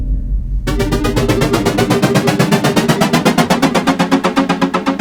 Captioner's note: ascending electronic whirring